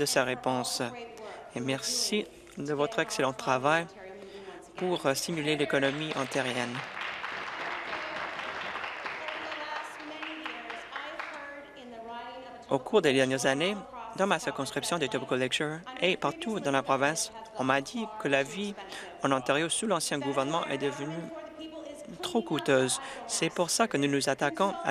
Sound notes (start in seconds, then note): 10.8 applause